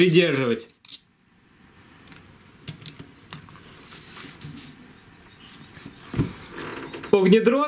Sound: silence

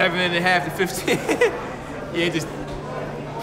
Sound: laughs

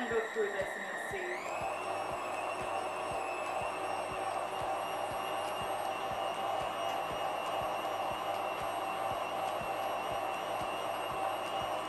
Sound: whirring sounds

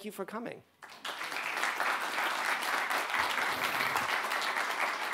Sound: audience applauds

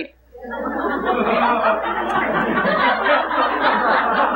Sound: congregation laughing

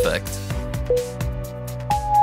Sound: timer beeping

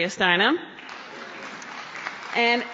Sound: applause

